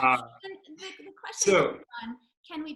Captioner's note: laughs